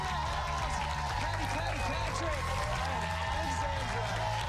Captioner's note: cheers and applause